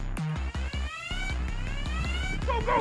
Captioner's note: suspenseful electronic music; alarm wailing